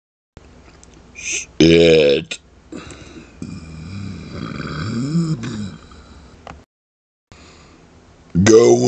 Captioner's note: muffled burp